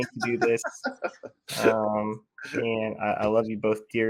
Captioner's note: all laughing